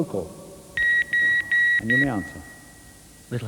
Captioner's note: beep Beep Beep Beep